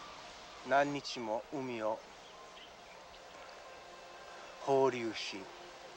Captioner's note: speaking foreign language